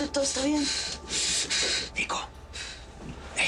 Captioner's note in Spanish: Respiración agitada